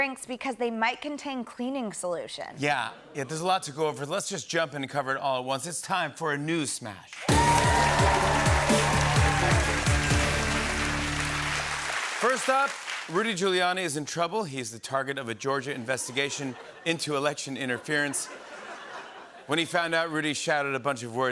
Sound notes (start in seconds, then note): 9.0 cheers and applause; 17.4 laughter